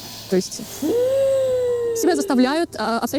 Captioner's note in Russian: страдальчески воет